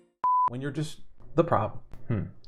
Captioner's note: signal beeps